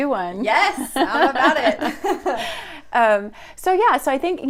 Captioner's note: laughs